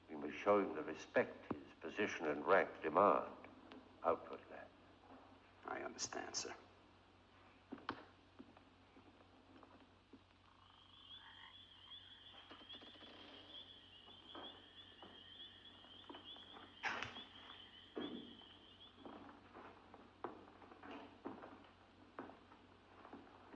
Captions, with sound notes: We must show him the respect his position and rank demand. Help with that. - I understand sir. (crickets chirping) (Andre's footsteps)